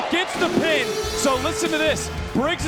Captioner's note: alarm blares